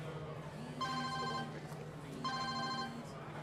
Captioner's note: phone ringing